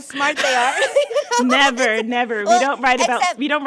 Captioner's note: laughter